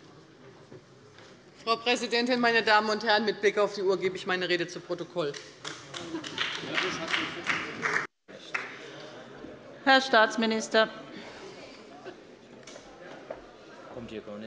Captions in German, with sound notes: Frau Präsidentin, meine Damen und Herren! Mit Blick auf die Uhr gebe ich meine Rede zu Protokoll. [Siehe Anlage 3 - Beifall] Herr Staatsminister. Frau Präsidentin!